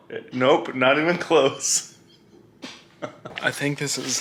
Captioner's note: laughs